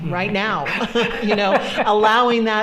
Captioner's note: all laughing